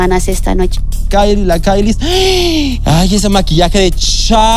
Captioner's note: gay gasp